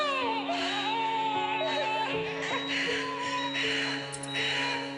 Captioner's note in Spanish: Llanto del bebé